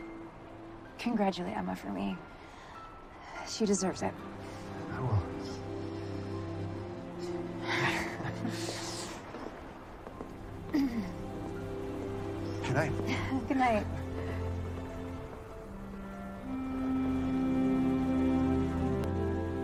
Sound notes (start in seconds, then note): 7.9 both laughing; 9.8 clearing throat